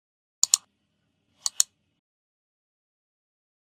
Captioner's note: mouse clicks